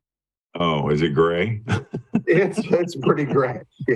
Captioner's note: laughs